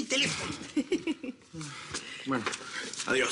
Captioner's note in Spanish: Risas